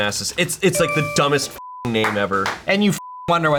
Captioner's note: beep; beep